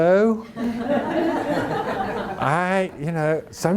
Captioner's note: audience laughing